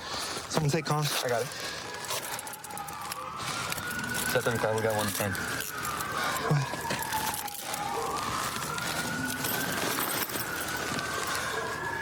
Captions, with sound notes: Someone take coms. I got it. Set 35. We got 110. [sirens grow louder] Go ahead.